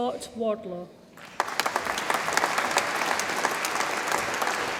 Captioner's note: audience applauds